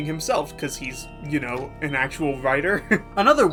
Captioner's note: laughing